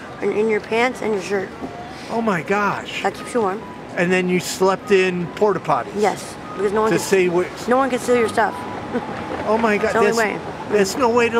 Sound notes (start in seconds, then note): 8.8 laughs